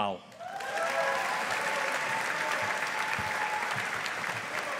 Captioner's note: audience applauding